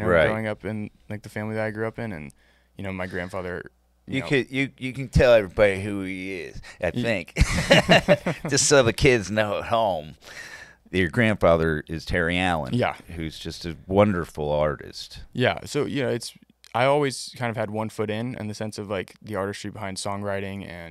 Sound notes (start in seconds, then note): 7.3 laughing